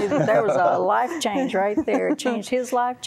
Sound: laughter

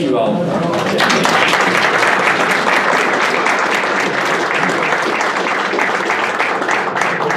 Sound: applause

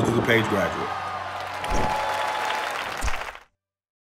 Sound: applause

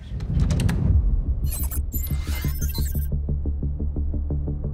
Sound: wind rushing; readout sliding and beeping; suspenseful electronic music

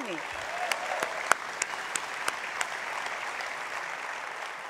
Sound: applause

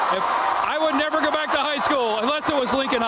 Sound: cheering

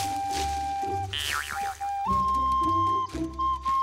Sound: whistling

